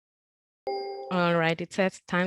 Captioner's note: timer beeps